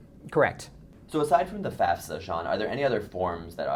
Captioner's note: voiceover